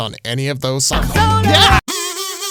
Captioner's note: shouts